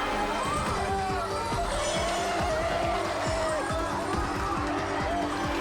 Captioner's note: onlookers scream